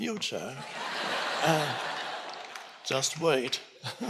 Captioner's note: audience laughing